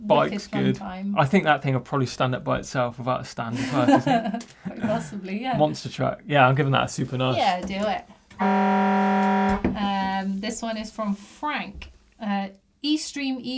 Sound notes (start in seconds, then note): 3.5 laughs; 8.4 siren beeping